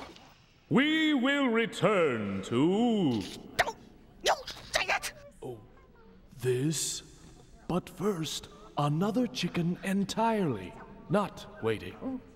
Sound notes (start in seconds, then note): 5.8 whispering